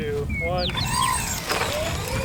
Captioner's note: whirring sound